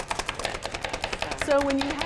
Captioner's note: chopping